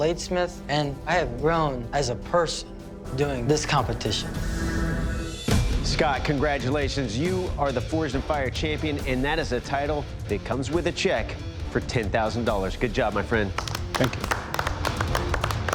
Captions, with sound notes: and I have grown as a person doing this competition. Scott, congratulations. You are the "Forged in Fire" champion, and that is a title that comes with a check for $10,000. Good job, my friend. [applause] Thank you.